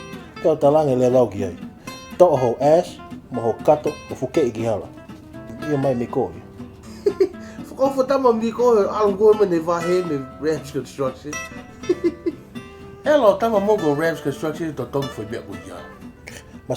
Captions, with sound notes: So then I told him, Get your ASS and your Bag and hit the road! Then he agreed. Wow sad that you punked him for his pay from Ramz Construction. (Laughs) Ramz Construction wasted their time paying for that.